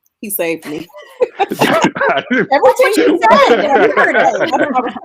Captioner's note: group laughing